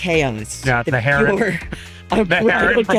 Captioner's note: laughs